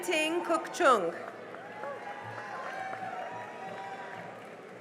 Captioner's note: cheering and applause